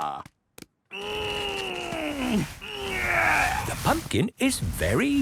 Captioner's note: straining